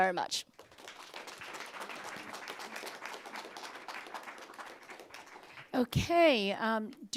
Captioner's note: applause